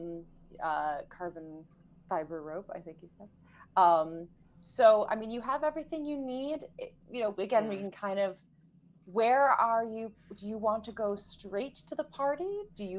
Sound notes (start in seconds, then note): none